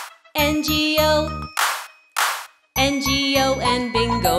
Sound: clap, clap

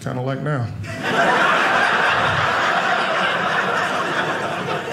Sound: audience laughing

